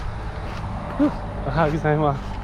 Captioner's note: speaking in foreign language